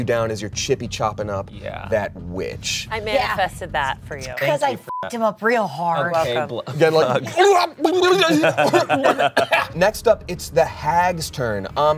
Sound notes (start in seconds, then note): 4.8 beep; 7.9 grumbles and coughs